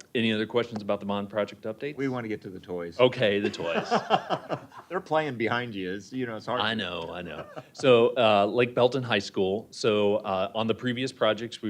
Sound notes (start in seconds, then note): 3.4 laughter